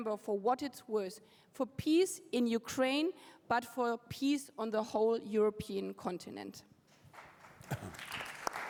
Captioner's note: applause